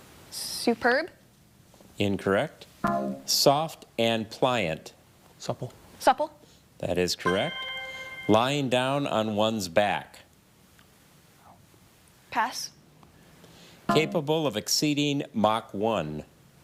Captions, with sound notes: - Superb. - Incorrect. (buzzer buzzes) Soft and pliant. - Supple. - Supple. - That is correct. (chime resonating) Lying down on one's back. - Pass. (buzzer buzzes) - Capable of exceeding Mach 1.